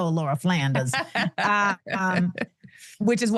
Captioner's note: laughs